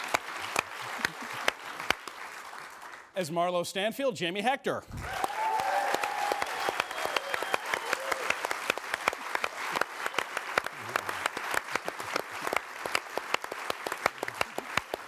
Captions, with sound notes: As Marlo Stanfield, Jamie Hector. (AUDIENCE CHEERING)